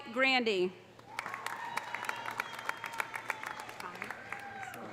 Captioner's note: audience applauding; audience cheering